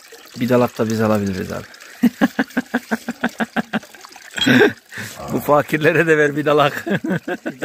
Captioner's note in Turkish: يضحك